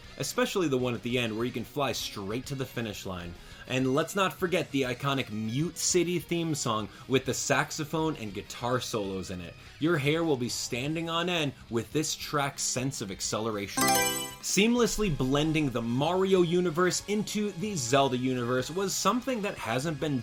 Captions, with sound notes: especially the one at the end where you can fly straight to the finish line. And let's not forget the iconic Mute City theme song with the saxophone and guitar solos in it. Your hair will be standing on end with this track's sense of acceleration. [Mario Selection Sound] Seamlessly blending the Mario Universe into the Zelda Universe was something that hasn't